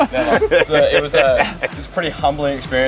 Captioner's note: laughs